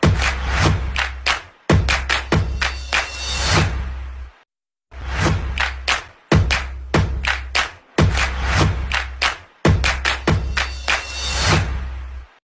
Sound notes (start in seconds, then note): 9.0 clap